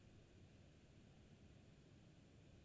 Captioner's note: none